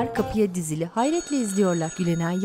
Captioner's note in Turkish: Telefon zili sesi